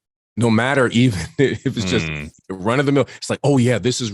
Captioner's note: chuckles